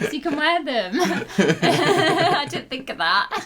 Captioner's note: laughter